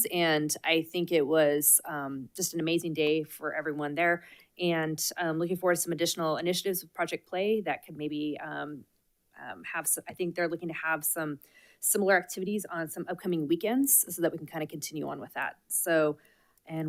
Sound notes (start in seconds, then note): none